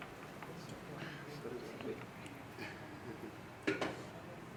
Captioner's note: ambient classroom setting noise